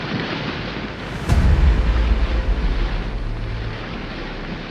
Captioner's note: ships burning